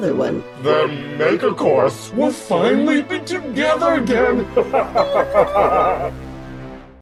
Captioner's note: laughs